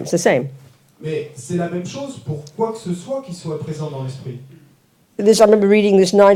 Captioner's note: French